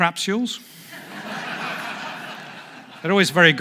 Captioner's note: audience laughs